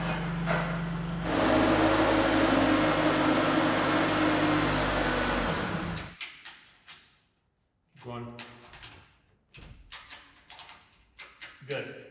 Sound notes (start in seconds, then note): 2.0 forklift engine running